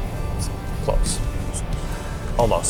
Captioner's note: heavy sigh